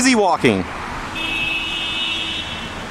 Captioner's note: car Horn